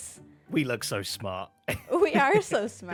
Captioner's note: laughs